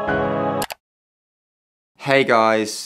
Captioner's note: mouse clicking